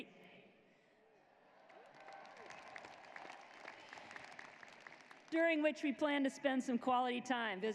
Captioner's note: cheers and applause